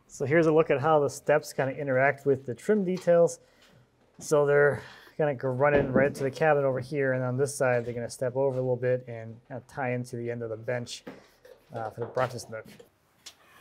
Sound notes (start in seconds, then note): none